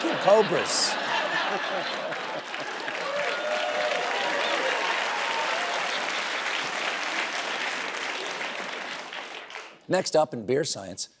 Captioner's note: laughter and applause